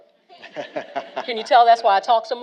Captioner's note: all laughing